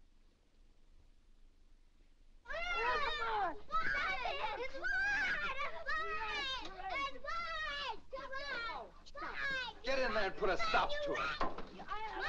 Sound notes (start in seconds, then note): 2.4 children fighting loudly